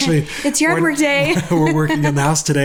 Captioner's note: laughing